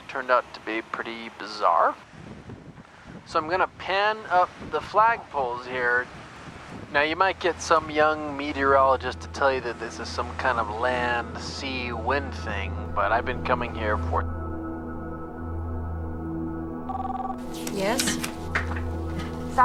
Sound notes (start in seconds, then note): 15.6 eerie music continues; 16.8 intercom beeps